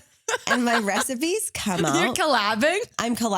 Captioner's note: laughs